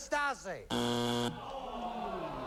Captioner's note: buzzer